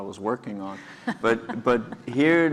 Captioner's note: laugh